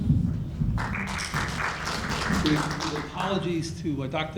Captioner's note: applauding